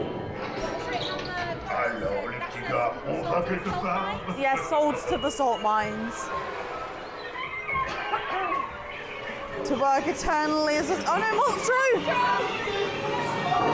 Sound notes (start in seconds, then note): 6.8 seagull calls